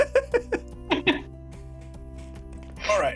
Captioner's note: laughter